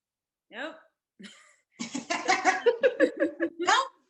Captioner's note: laughing